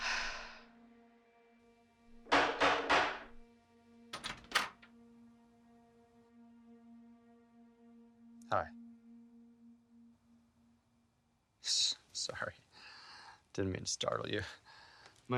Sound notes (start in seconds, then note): 2.5 door banging